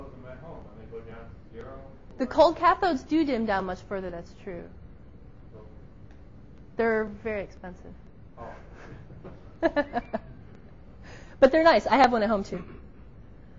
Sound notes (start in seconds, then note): 9.6 both laughs